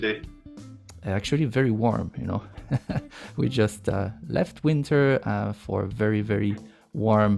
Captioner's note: laughs